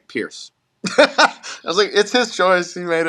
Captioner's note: laugh